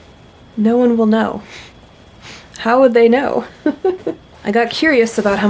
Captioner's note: laughs